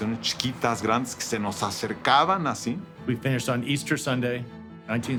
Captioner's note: in English